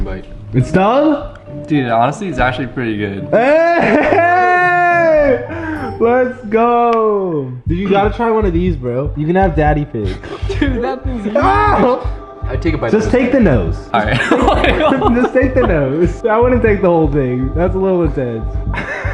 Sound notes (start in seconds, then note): 14.1 chuckles